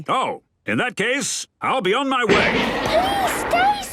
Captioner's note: none